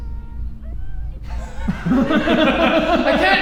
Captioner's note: laughing